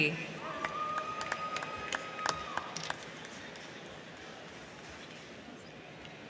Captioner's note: crowd cheering; crowd clapping